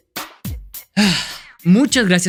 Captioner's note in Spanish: suspira